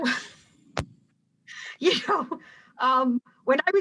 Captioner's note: laughing